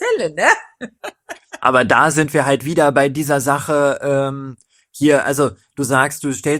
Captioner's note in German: gelächter